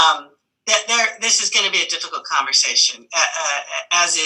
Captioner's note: laughs